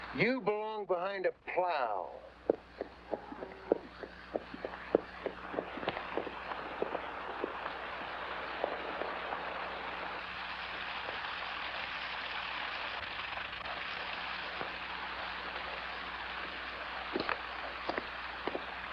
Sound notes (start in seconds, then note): 2.4 hooves trotting; 7.5 water running